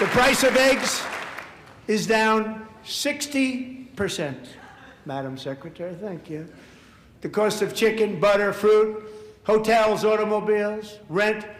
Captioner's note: applause